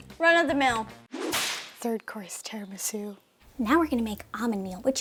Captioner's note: whip cracking